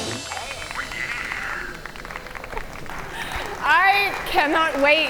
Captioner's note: audience applaud